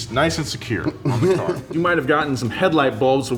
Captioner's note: laughs